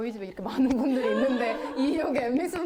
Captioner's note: hahahaha